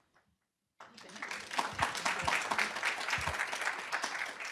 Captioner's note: applause